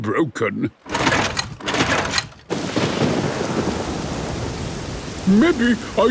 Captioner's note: engine struggling